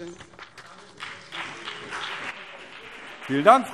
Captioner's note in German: Beifall BÜNDNIS 90/DIE GRÜNEN und vereinzelt CDU